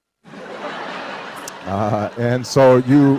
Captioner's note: laughter